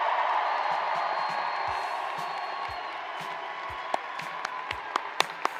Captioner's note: cheers and applause